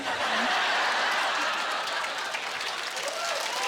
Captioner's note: laughter; cheers and applause